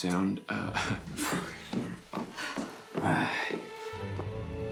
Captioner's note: footsteps tap; tense music